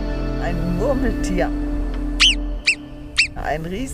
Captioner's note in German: Lautes Quieken